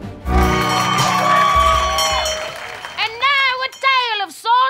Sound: bell ringing

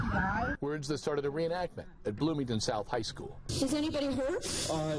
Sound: sobbing

